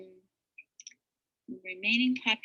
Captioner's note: mouse clicks